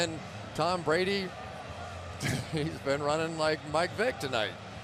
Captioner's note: laughs